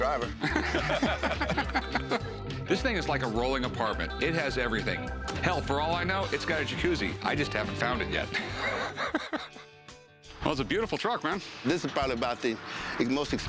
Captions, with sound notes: [men laugh] This thing is like a rolling apartment-- it has everything. Hell, for all I know it's got a Jacuzzi-- I just haven't found it yet. [wheezing laugh] [country rock music] That was a beautiful truck, man. This is probably about the most expensive truck